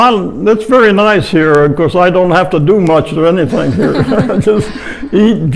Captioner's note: laughs